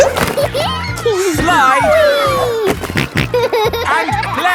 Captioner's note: giggles; snorting